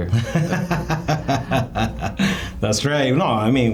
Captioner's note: laughing